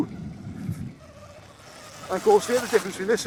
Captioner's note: motor humming